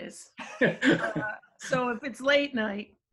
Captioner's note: laughter